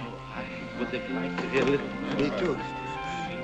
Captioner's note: murmuring